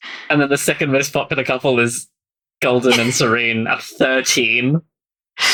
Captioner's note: laughing